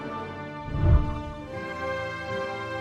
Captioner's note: whooshing sound